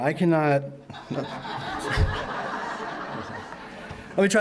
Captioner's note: laughter